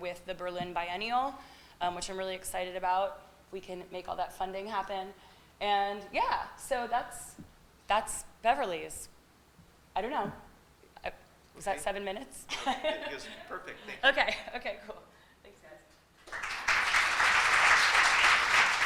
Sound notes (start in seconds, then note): 12.6 laughs; 16.2 applause